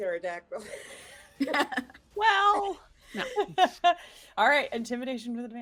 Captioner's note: laughing